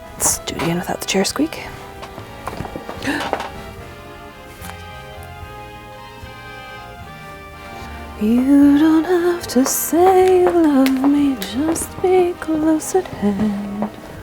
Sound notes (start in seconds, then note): 1.6 gasps